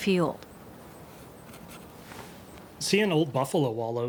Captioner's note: brush scratching